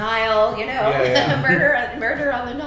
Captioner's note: laughing